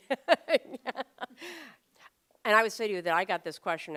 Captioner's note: laughter